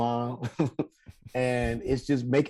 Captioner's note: Rel chuckles